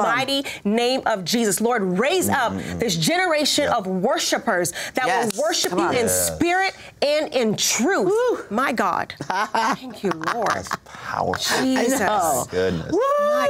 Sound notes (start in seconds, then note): 9.2 laughs